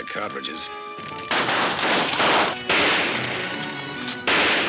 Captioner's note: gunshots banging